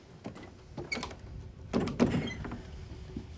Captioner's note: door shuts